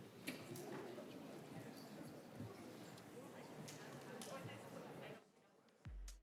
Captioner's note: background Conversation